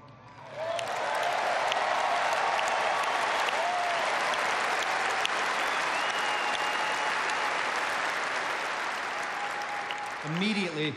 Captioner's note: applause